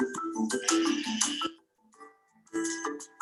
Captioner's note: sheep bleating